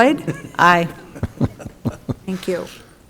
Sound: men chuckling

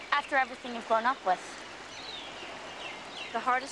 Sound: none

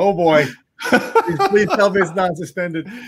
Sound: laughs

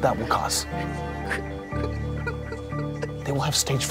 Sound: Ike whimpering

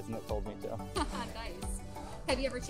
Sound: laughs

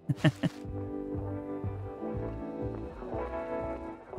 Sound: laughs

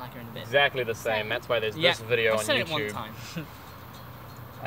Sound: chuckles

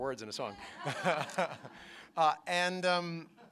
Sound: laughter

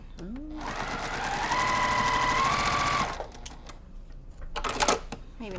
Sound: sewing machine resounding

